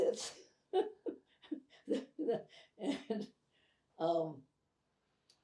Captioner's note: laughing